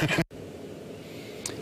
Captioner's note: laughs